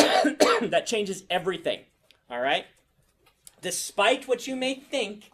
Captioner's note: coughs